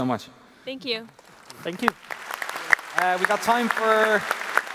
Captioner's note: applause